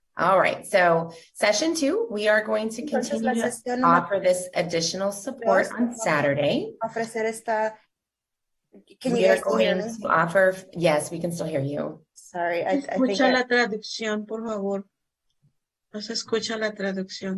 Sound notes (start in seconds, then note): 7.6 translator speaking Spanish; 13.7 speaking Spanish